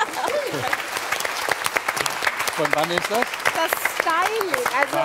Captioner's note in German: Applaus